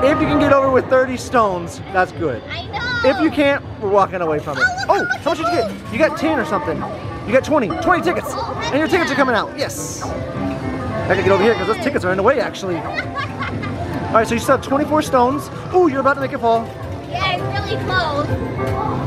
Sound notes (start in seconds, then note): 12.9 laughing